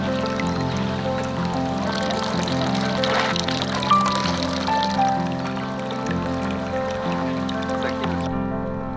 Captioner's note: water sounds